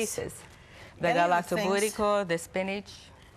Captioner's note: foreign language